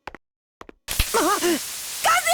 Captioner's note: gasp